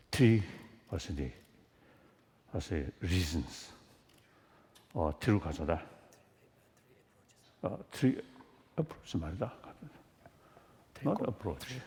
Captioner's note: foreign Language